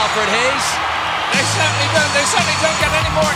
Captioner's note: audience cheering